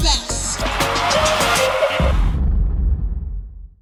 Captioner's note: cheering